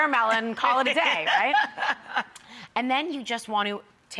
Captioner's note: Rachael laughing